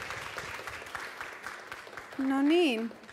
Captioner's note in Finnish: Aplodeja